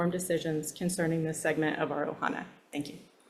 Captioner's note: speaks Hawaiian